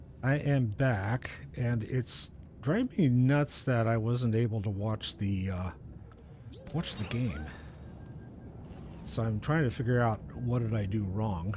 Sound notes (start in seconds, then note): none